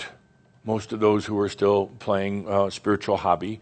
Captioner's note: none